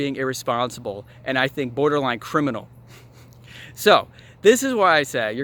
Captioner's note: laughs